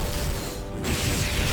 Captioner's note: explosion